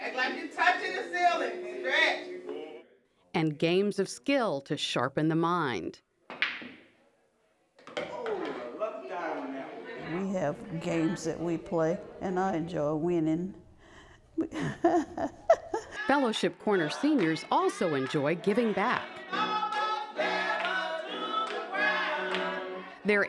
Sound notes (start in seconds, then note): 14.4 laughs